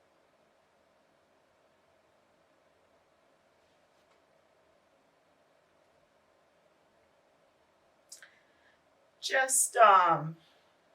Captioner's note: long silence